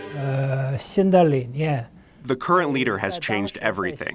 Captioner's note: speaking foreign language